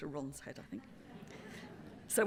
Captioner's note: laughter